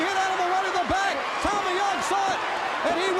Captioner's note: crowd cheering